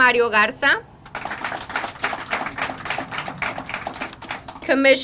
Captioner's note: crowd applauding